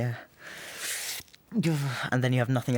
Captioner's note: inhales sharply